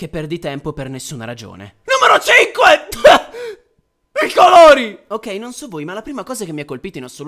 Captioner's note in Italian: coff